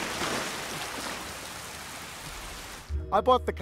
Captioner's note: water splashes